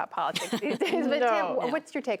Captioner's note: laughter